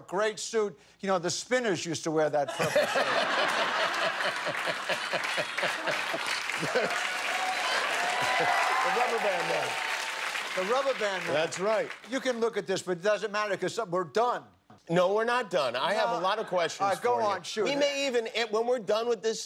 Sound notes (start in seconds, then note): 8.1 laughter; 11.8 applause